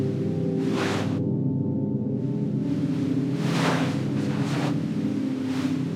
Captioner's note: soft music; crackling